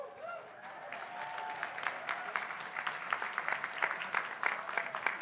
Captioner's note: crowd applauding